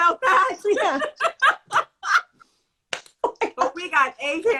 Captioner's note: laughter